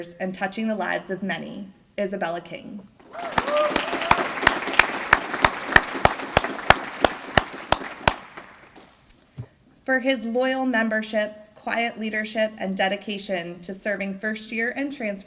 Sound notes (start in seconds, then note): 3.0 applause